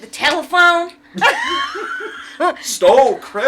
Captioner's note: laughs